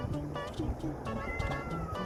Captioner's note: meow